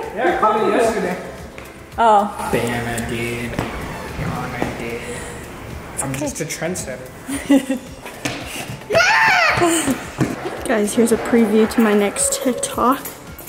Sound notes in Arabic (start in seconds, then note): 7.3 تضحك أمي; 9.6 تضحك